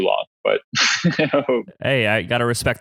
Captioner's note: laughs